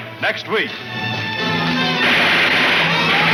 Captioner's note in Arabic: البنادق تطلق النار بشكل عدواني